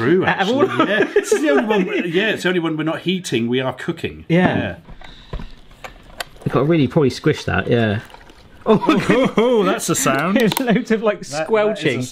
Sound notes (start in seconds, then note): 0.4 laughs; 8.8 noodles squelch wetly